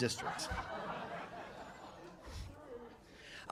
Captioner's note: laughter